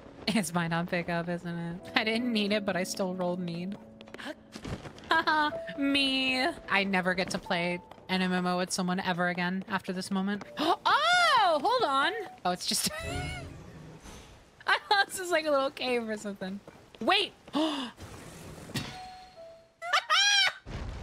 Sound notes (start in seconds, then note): 5.0 scarcastically; 12.8 laughter; 17.6 gasp; 19.8 victory Cheer